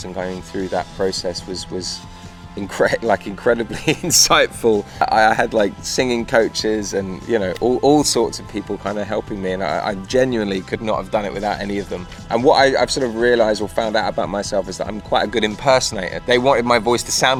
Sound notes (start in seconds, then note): 3.7 laughs